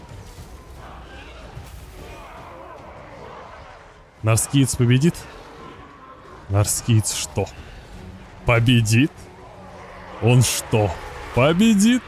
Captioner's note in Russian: стон